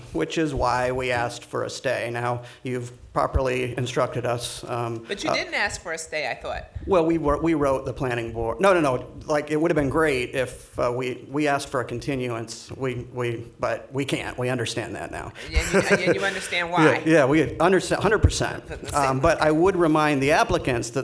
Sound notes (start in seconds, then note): 15.4 laughing